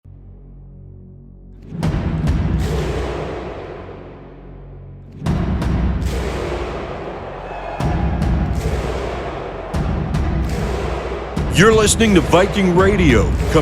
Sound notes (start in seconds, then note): 0.0 intense instrumental music; 7.6 crowd cheering; 7.6 intense instrumental music